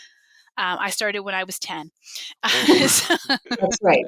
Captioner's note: laughs